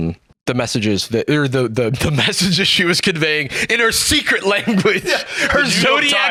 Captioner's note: laughs